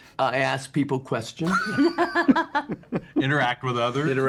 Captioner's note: laughter